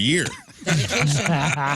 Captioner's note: laughing